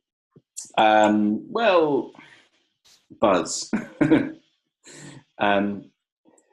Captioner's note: laughing